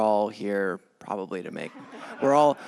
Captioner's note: laughter